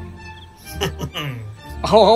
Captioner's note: laughs